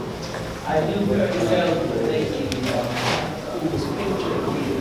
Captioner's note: audience chattering